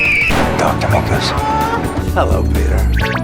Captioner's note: honk